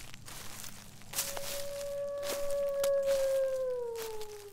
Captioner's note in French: Hurlement d’un loup au lointain